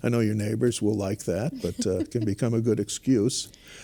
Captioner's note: laugh